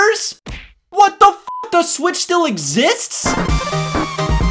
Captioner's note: beep